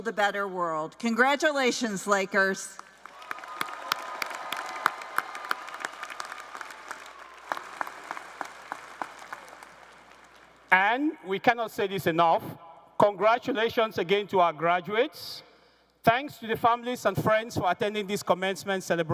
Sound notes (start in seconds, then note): 7.2 cheers and applause